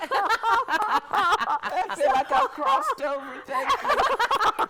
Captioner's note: all laugh